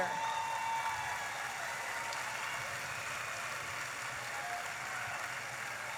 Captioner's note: audience applauding and cheering